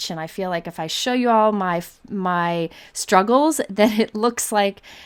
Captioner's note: laughs